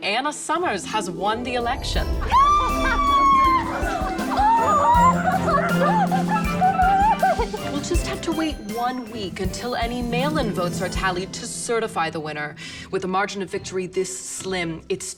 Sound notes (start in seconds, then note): 2.3 screams